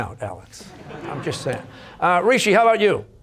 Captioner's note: audience laughter